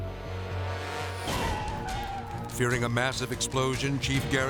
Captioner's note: tires squealing